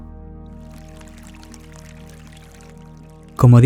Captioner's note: flowing river